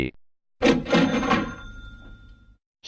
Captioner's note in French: la caisse enregistreuse claque